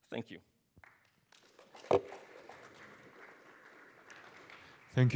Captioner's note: applause